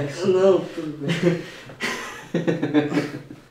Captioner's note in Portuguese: Risos